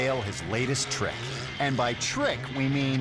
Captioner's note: motorcycle buzzing